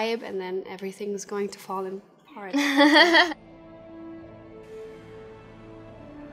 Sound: Anna chuckles

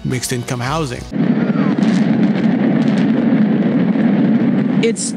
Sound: explosions

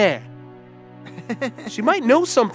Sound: giggles nervously

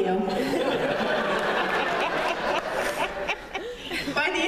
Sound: laughter

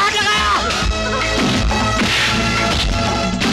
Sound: fighting Sound

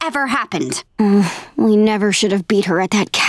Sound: moaning

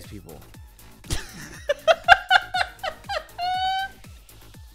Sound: laughing

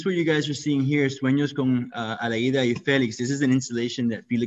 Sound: speaking in foreign language

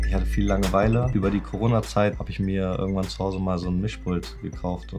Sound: upbeat electronic music; speaking foreign language

